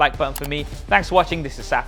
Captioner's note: like button clicking